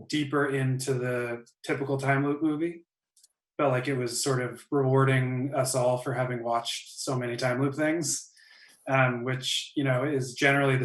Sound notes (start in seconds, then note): none